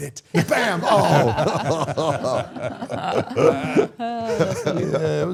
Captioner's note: all laughing